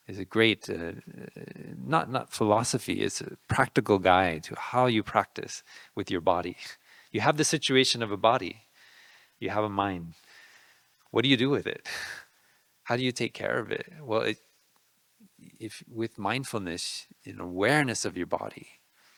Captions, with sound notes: is a great, not philosophy, it's a practical guide to how you practice with your body. You have the situation of a body, you have a mind. What do you do with it? (laughing) How do you take care of it? Well, if with mindfulness in awareness of your body,